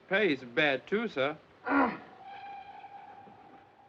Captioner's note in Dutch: man kreunt